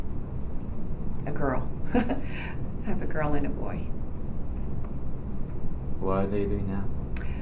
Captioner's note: laughs